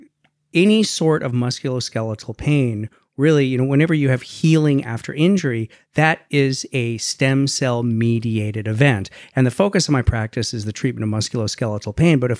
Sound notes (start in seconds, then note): none